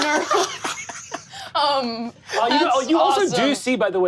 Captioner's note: all laugh